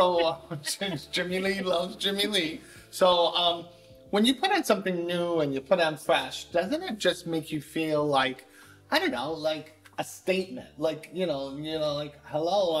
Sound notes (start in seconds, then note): 0.0 laughter